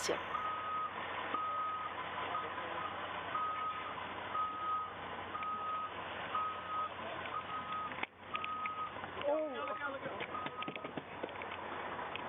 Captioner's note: ambulance siren